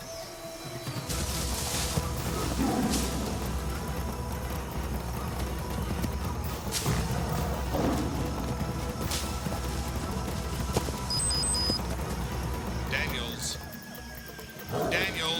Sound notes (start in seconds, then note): 2.2 tiger roars; 6.9 tiger roars; 11.0 digital beeping; 14.6 tiger roars